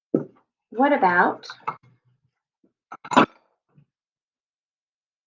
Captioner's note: glass clanking